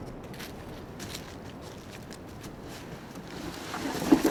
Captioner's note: foot steps